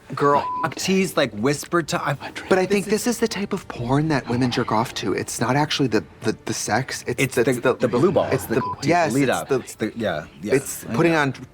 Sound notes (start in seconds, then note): 0.4 beep; 8.5 beep